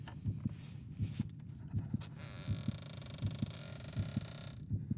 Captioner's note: creaking